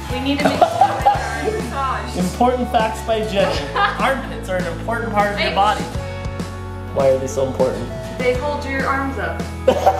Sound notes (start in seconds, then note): 3.4 laughing